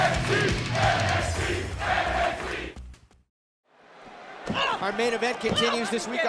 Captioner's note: fans chanting